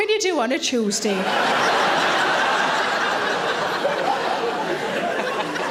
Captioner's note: audience laughing